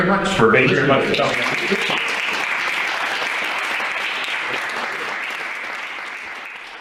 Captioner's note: applause